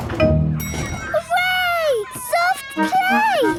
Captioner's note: dinging